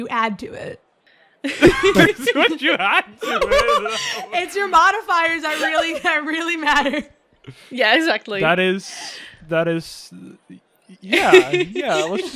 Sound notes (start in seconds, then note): 1.4 laughter; 1.5 laughing